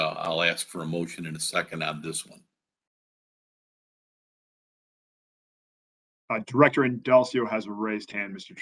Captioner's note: A pause